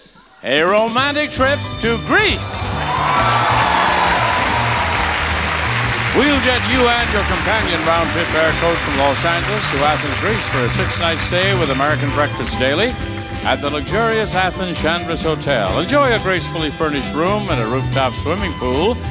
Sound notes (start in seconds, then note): 2.4 audience cheering